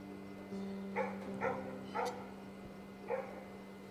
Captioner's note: dogs barking in the distance